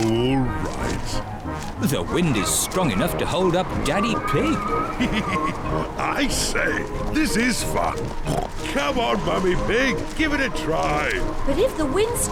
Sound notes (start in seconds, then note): 4.4 chuckles